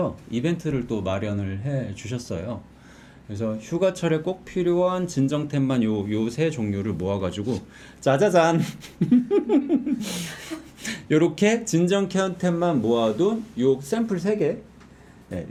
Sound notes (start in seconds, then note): 8.6 giggling